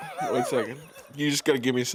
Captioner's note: laughing